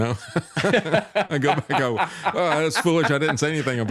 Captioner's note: laughing